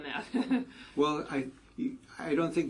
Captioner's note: laugh